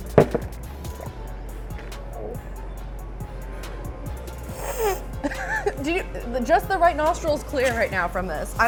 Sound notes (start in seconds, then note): 1.2 slurps; 4.4 sniffs and chuckles